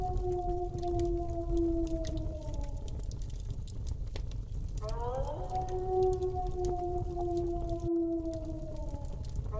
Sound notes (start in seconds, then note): 4.8 wolf continues howling; 5.2 fire continues crackling